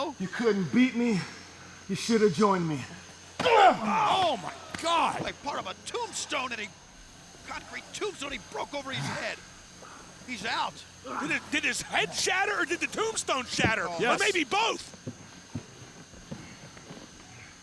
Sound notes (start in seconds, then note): 3.5 block shattering